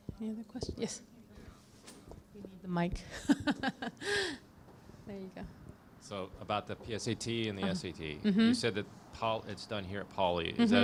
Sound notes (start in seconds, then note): 3.1 laughs